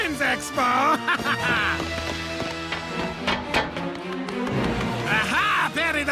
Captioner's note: laughs